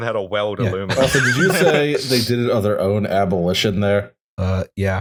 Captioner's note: laughter